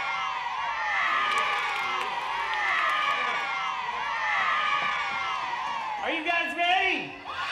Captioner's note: cheering